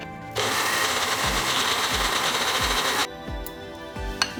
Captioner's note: blender whirring